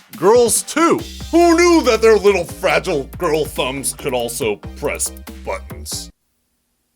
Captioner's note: sarcastically